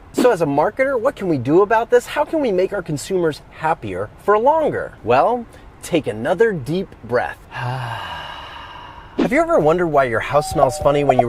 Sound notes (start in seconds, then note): 7.5 breathes deeply